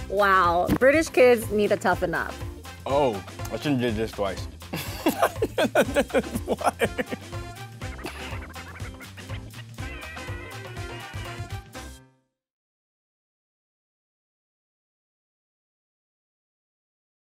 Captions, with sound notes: Wow! British kids need to toughen up. - Oh, I shouldn't have did this twice. (laughter) (upbeat music)